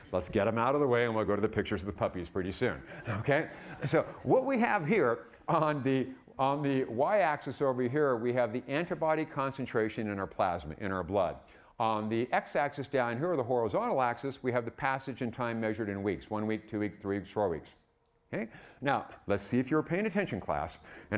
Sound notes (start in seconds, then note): 2.6 audience laughing